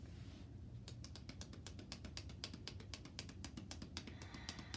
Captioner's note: hands tapping